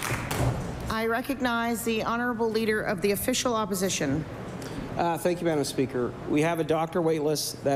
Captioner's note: applause